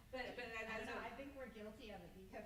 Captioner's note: stammers